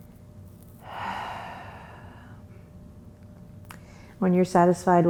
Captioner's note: deep breath